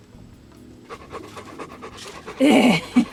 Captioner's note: dog panting; laughing